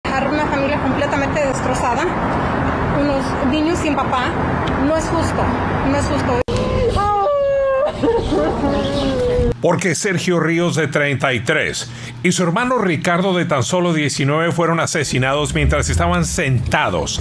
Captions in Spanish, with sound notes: DIÍCIL TAREA DE PLANIFICAR EL ENTIERRO T2 HERMANOS ASESINADO POR UN PERFECTO EXTRAÑO, SEÚN HA DICHO UN COMANDANTE DE LA POLIÍA DE LOS ANGELES. DEJAR LA FAMILIA COMPLETAMENTE DESTROZADA, LOS NIÑOS SIN PAÁ, NO ES JUSTO. [LLORA]